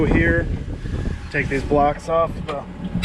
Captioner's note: Discbine clanks